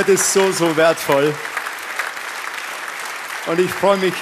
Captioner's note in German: Applaus